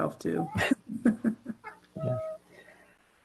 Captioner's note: laughter